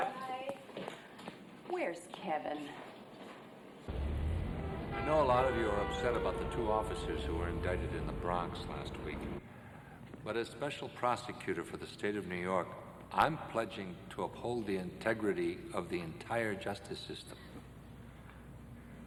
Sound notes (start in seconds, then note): 3.9 horn honking; 3.9 vehicles humming